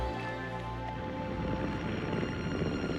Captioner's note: airplane motor